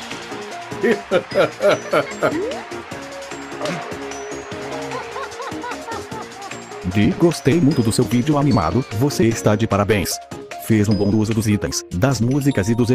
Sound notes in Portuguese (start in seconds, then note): 7.1 risadas